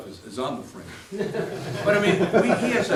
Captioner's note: laughter